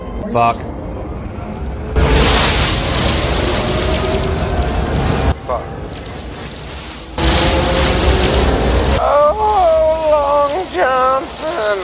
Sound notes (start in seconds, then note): 2.5 zapping; 5.9 zapping continues